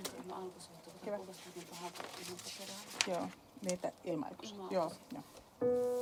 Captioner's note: hiljaista puhetta